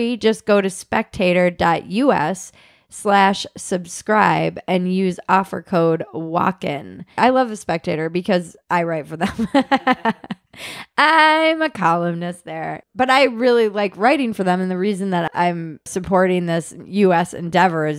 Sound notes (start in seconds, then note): 9.4 laughing